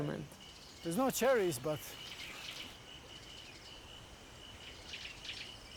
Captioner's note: birds chirping